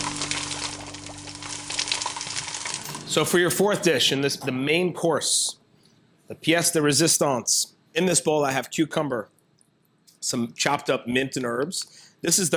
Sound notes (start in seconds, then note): 0.0 cooking oil sizzling; 0.0 water boiling; 6.8 speaks in foreign language